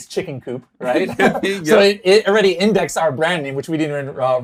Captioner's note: both laugh